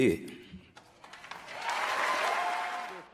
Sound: cheering and applause

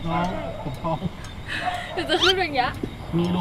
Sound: gasps

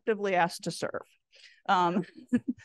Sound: chuckles

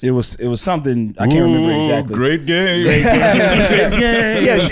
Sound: spookily

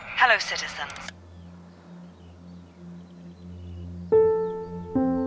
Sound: clicks radio off; reflective music

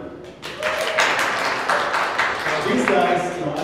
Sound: audience cheering and clapping

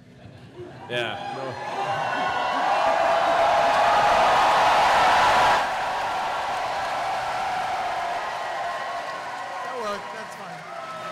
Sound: cheering

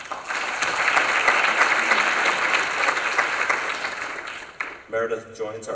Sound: applause

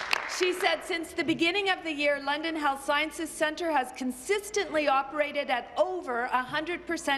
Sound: applause

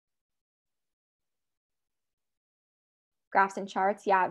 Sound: silence

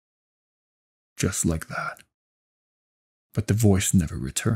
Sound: voiceover

